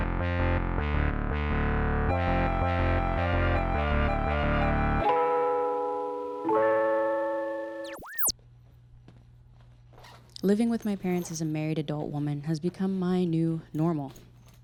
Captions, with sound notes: (bell sounds) - Living with my parents as a married adult woman has become my new normal.